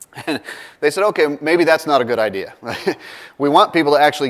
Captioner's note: laugh